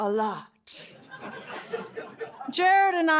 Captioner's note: laughter